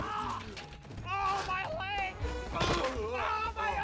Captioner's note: grunts